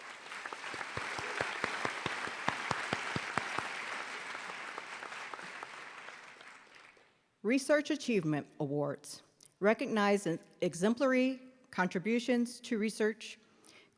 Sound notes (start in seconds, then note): 7.6 applause